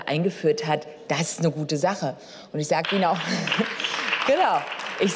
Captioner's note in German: Beifall